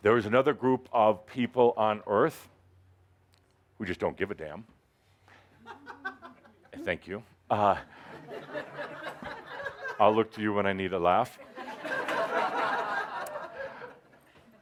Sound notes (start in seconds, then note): 5.6 someone chuckles loudly; 14.3 laughter